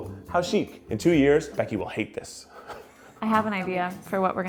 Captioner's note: laughs